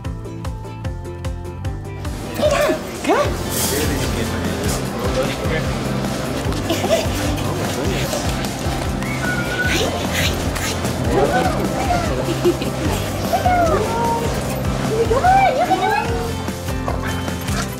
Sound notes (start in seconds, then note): 9.0 whistle; 13.7 kissing sounds